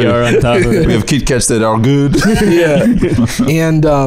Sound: French accent

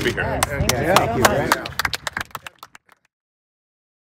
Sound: clapping

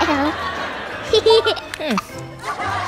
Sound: satisfied laughter

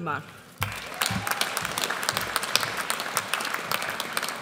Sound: audience applauds

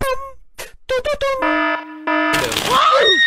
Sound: funny melody playing; siren wailing; screams

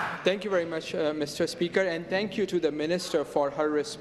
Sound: applause

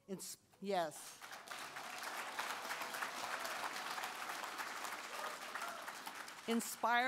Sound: applause

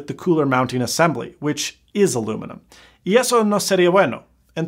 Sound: speaks Spanish

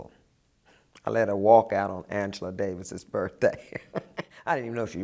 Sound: laughs

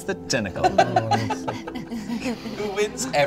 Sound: laughter

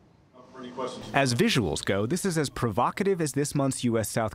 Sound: voice-over

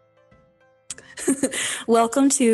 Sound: giggling

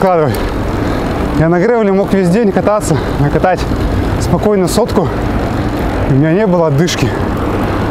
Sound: difficulty breathing

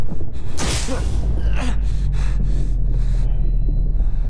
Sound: gasping; electricity sparking; gasping

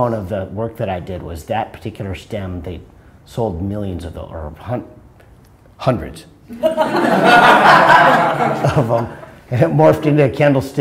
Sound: laughter

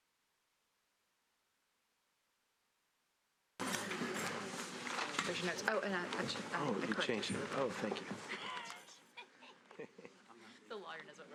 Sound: laughter

